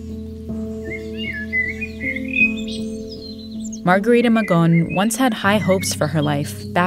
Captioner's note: soundbite of bird singing